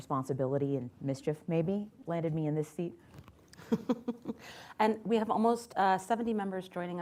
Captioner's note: laughs